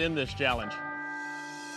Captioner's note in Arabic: يقرع الجرس